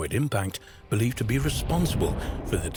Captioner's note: asteroid whooshing